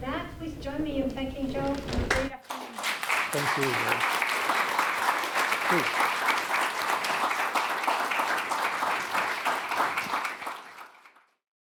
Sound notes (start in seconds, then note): 5.3 attendees applauding; 7.1 attendees applauding continues